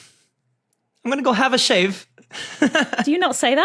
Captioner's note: laughs